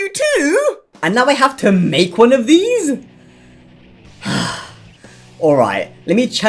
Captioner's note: sigh